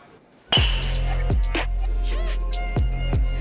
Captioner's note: ball hits